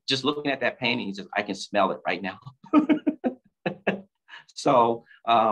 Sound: laughs

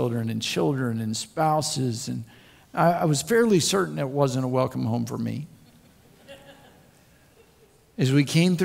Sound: crowd Laughs

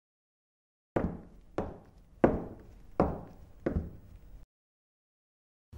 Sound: even even more footsteps

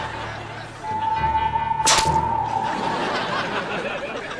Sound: splatting

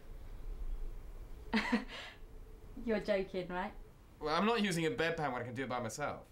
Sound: chuckles

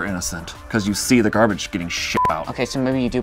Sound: beep

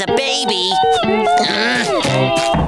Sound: groaning; knocking

